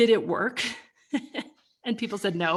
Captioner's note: laughs